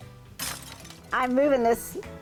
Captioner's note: glass break sound